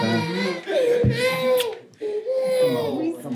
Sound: baby crying

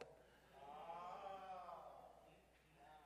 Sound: crowd

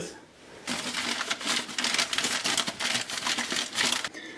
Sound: shuffling paper

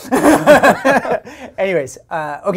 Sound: laughs

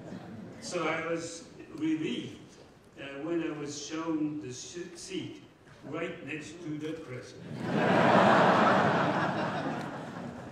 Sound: laughter

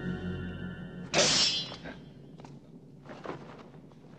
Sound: clinking

